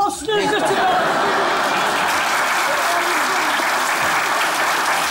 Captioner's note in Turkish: Alkış sesleri